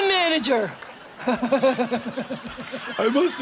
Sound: laughing

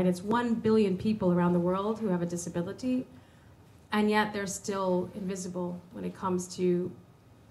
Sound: none

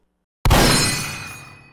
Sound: shotgun blast

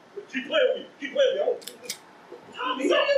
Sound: indistinct chatter; gun clicks; indistinct chatter

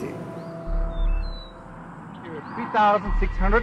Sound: birds and a plane approaching in the background

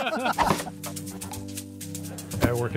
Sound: funky music; board thwack

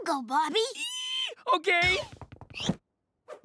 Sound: squeals

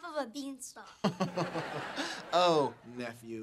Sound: laughing

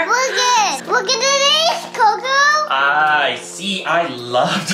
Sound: babbles

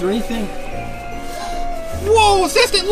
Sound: gasp

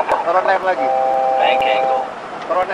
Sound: bank Angle Warning; altitude Deviation Alert

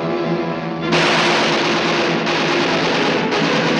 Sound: gunfire

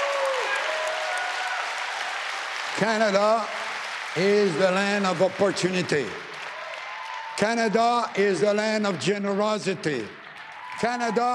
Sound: applause

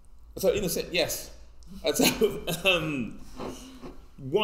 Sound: laughs

